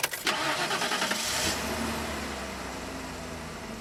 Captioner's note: car revs